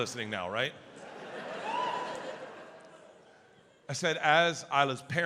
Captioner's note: audience member woos